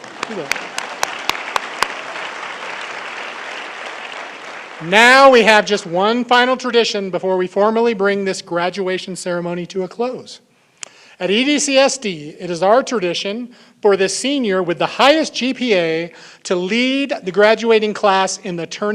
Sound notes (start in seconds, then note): 4.1 applause